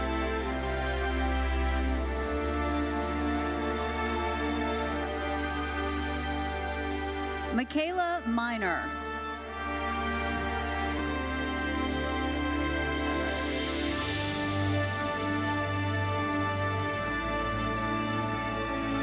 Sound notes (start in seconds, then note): 0.0 audience applauding; 0.3 bright lively music continues; 9.3 audience applauding; 13.9 bright lively music continues